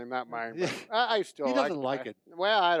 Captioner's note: chuckles